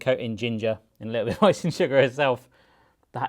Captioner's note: laughs